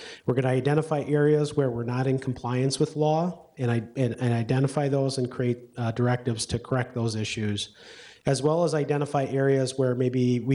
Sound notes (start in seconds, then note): none